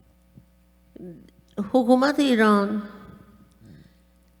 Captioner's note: speaking persian